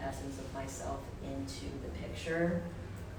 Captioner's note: none